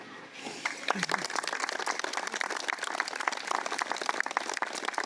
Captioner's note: crowd applauding loudly